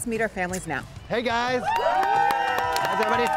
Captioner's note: group cheers; group cheers and applauds